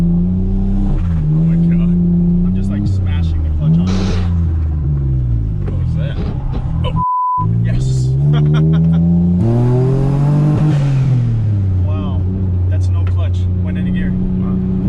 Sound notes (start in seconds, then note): 3.8 car gears grinding; 6.9 beep; 8.2 laughs; 9.8 car engine roaring